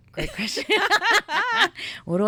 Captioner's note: both laughing